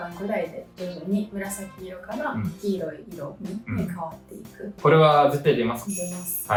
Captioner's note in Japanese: 咳払い